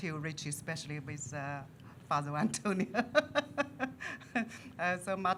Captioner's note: laughs